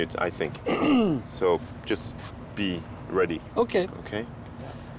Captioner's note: clears throat